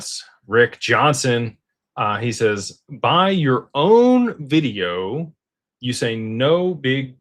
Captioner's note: none